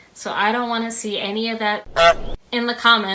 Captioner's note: honk!